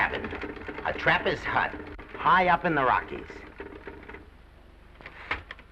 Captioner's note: typewriter chatters